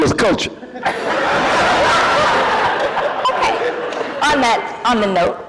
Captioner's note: laughter